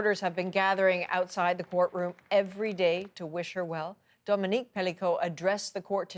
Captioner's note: applause